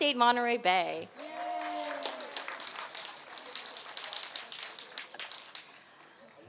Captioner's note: applause